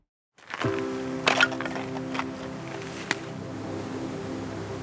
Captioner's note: wood falling on the firepit; quiet music